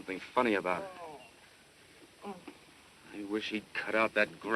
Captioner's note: groaning